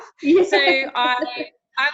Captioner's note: laughing